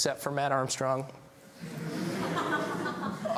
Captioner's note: laughs